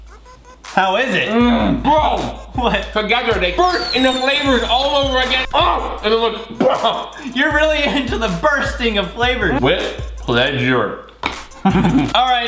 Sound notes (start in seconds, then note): 5.8 explosion noises; 11.6 giggling